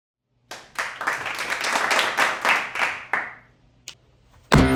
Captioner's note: clap